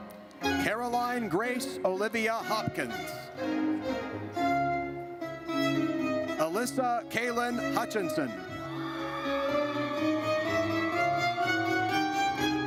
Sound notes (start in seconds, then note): 3.7 triumphant music; 8.6 audience cheers